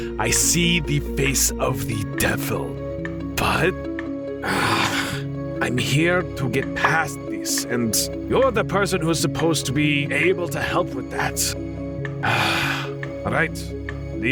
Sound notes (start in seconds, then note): 4.4 sighs; 12.2 exhales